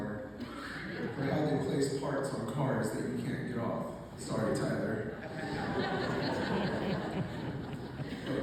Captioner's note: laughter